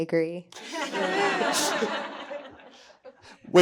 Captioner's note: everyone laughing